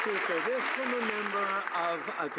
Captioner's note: some Applause